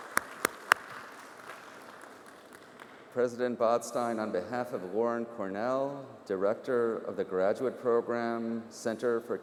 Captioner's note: applause